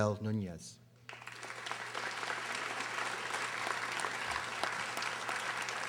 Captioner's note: audience applauding